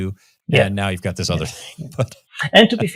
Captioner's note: laughing